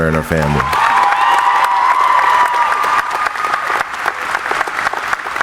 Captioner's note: audience applauding